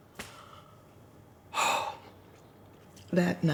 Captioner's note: sighing